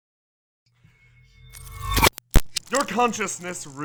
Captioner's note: ringing and crackling - teleportation sounds